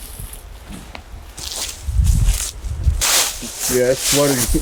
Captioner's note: leaves crunching